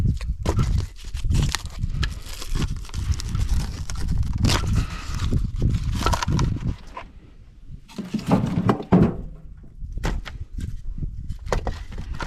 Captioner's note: footsteps